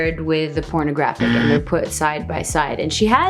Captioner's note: buzzer noise